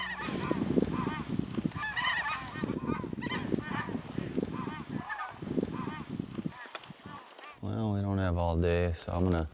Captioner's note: bird calls